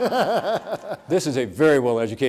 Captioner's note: audience laughs